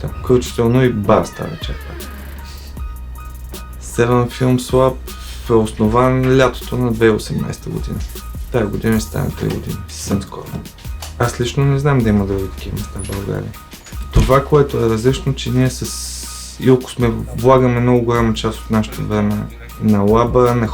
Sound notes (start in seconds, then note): 1.2 giggles